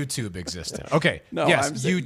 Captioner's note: laughs